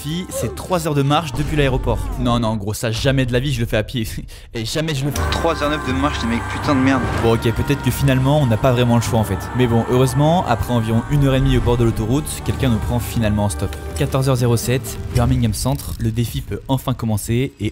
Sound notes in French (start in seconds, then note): 4.1 rire